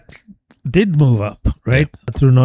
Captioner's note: uh